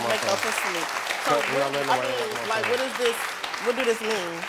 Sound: audience applauds

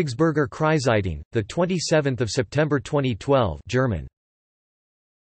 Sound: German

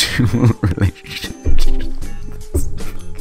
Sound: more laughter

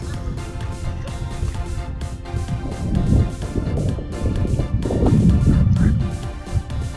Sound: yelling from distance, over the wind

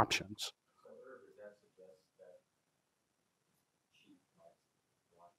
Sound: man speaks softly

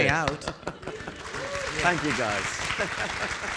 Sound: audience applauding

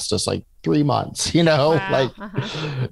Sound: laughs

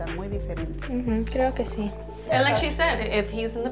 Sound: Eileen's grandma speaks in foreign language; speaks in foreign language

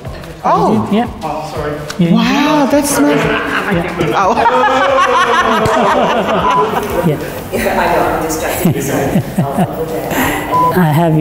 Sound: laughing

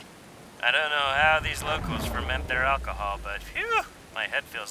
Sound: phew

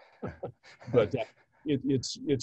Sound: both chuckles

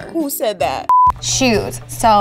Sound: beeps

